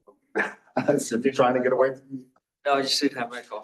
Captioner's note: laughs